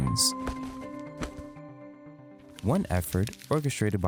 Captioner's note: paper rustling